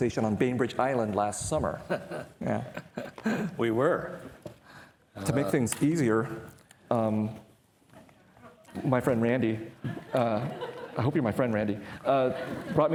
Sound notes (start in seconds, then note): 1.8 laughing